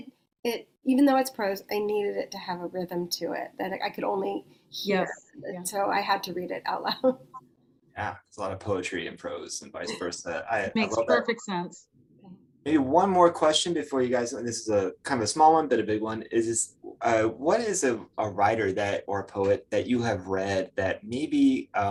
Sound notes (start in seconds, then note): 7.5 chuckles